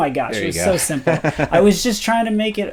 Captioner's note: laughs